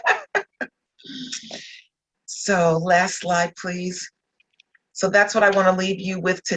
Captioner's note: laughter